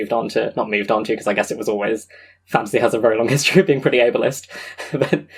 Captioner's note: laughing